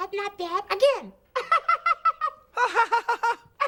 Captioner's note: laughs